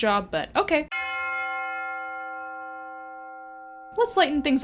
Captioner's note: bell chimes